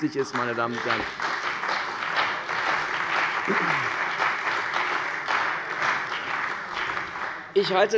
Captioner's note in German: Beifall bei der CDU und dem BÜNDNIS 90/DIE GRÜNEN